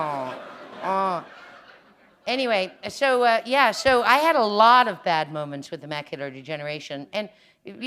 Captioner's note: laughter